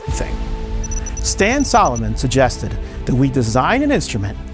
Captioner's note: text chiming